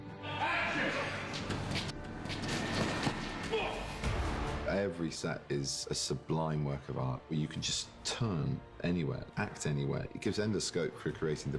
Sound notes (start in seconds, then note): 3.3 grunts